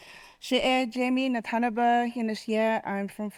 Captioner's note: speaking Navajo